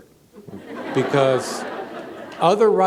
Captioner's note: laughter